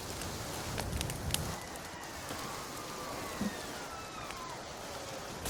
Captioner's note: sharp wail far in the distance